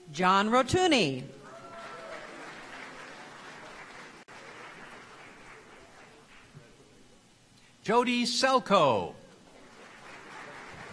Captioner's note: applause